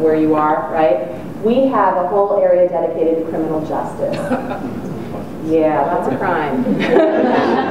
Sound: audience chuckles

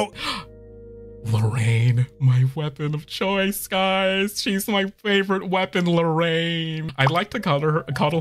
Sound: gasp

